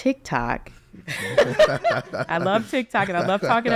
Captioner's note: all laughing